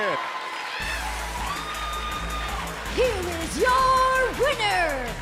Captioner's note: bell ringing